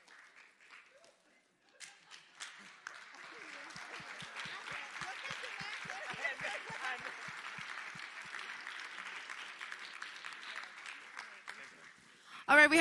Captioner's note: applause